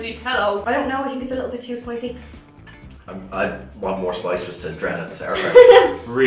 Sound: chuckles

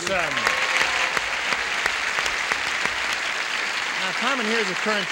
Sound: applause

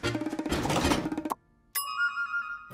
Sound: dinging

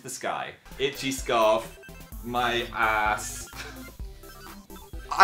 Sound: laughs

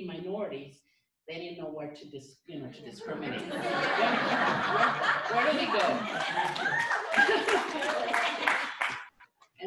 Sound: laughter; clapping

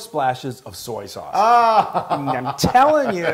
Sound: laugh

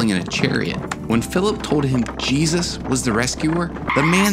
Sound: brakes squeal

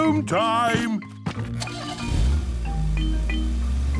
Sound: engine starting

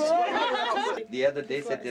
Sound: laughter

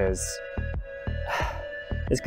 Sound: sigh

